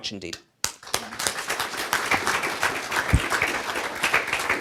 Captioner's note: applauding